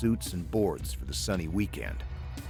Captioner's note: voiceover